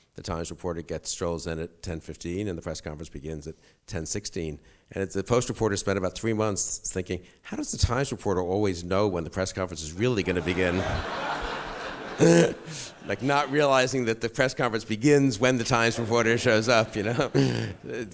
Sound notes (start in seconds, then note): 10.1 audience laughs; 12.1 sniggers